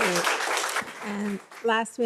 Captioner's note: audience applauding